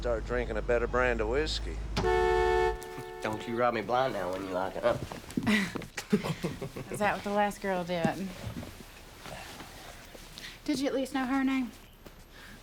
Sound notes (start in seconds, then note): 2.0 horn blares; 5.4 laughing